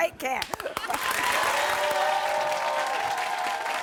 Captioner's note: cheering